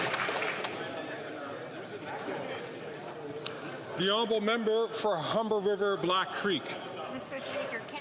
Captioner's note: some Applause